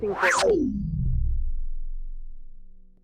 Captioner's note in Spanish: Cinta corta abruptamente